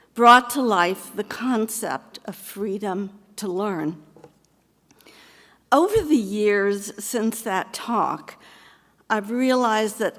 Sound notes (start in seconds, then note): none